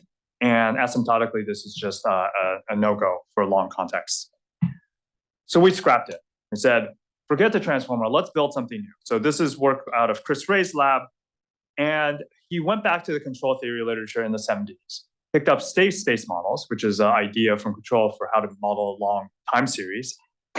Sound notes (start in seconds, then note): none